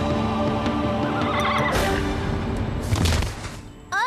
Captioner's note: whinnies